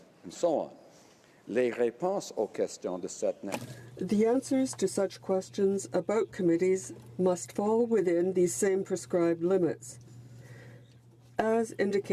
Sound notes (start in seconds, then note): 4.8 speaking in French